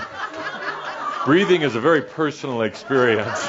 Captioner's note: more laughter